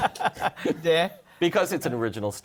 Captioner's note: laughter